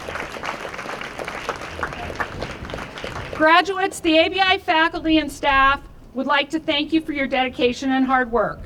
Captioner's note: applause